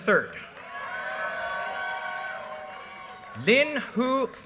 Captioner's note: audience cheers and applause